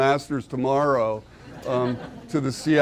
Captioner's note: audience laughing